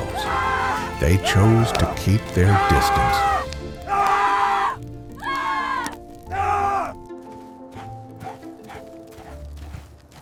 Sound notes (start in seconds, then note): 2.1 man screaming; 7.7 fire burning